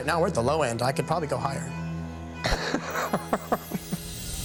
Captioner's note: laughs